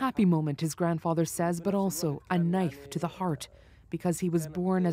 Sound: speaking alternate language

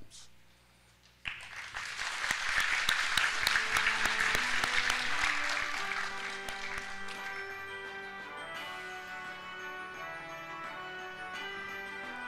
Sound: applause

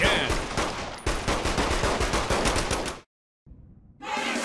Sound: triumphant shooting

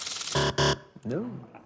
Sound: buzzer

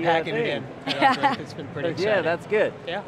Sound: laughs

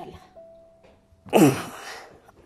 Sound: sound of agony

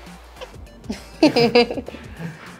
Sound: laughing

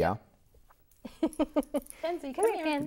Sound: laughing

